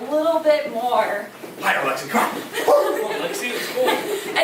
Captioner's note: chuckling